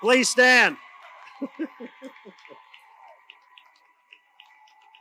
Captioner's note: audience cheers